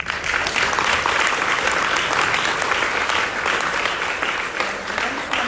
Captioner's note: audience applauding